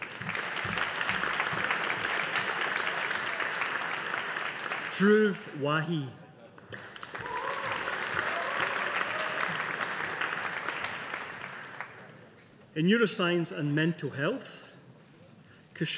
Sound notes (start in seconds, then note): 0.0 audience applauding